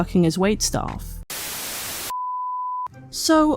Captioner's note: static